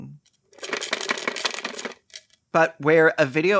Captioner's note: life savings rattling with abandon